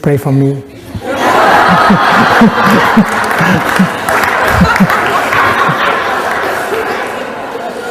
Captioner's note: laughter and clapping